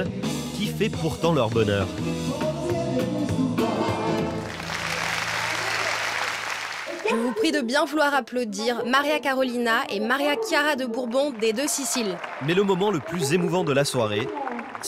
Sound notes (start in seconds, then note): 4.3 applause